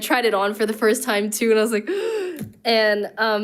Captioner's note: gasps